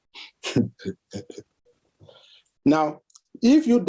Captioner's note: chuckles